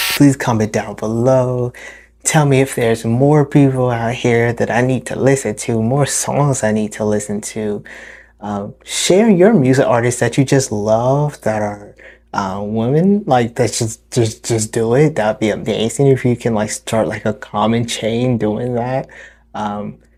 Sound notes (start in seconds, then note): 13.2 studders